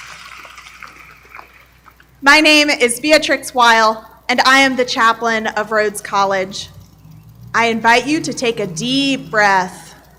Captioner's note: applause